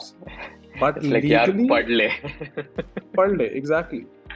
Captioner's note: in hindi